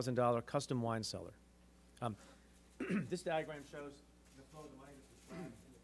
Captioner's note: clears throat